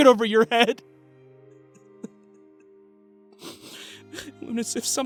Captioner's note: Jackson fights sobs